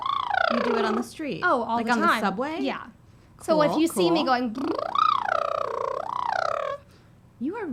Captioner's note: buzzes lips; buzzes lips